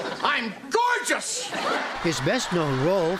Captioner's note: laughter